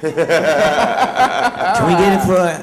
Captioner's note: laughter